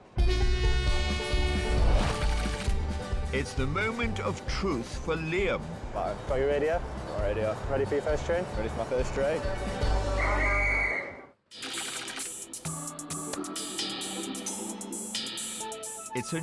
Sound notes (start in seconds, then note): 0.2 train horn blaring; 0.3 upbeat bluegrass music; 2.0 text clicking; 10.1 whistle tweeting; 11.6 text clicking; 12.6 mellow New Age music